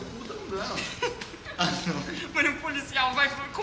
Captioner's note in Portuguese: Risadas